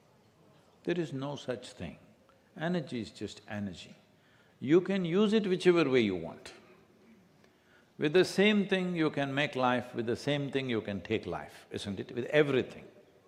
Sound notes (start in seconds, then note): none